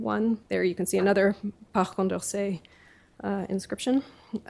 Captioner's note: french